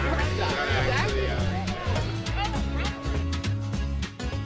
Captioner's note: laughter; chatter